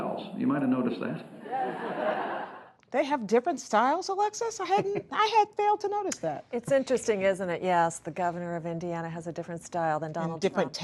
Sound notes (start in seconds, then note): 1.4 laughter